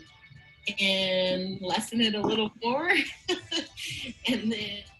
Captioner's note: laughing